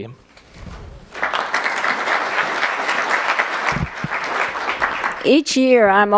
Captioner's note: applause